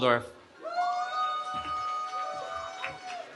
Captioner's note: cheering